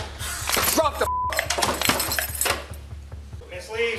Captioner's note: beep